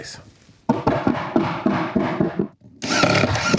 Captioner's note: hammering sound; electric drill sound